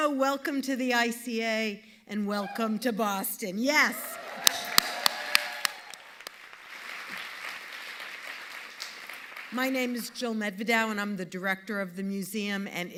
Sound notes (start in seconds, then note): 3.9 audience cheering and applauding